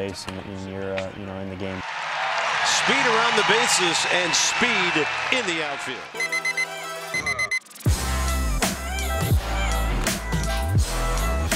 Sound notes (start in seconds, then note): 6.2 alarm beeps; 7.7 hip hop music